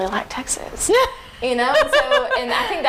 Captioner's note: laughing